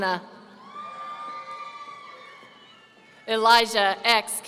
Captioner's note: audience cheering